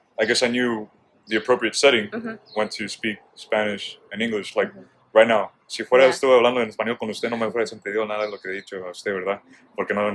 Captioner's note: speaks in Spanish